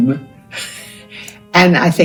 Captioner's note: chuckles